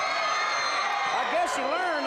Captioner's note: audience cheers